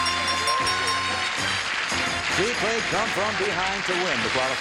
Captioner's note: chiming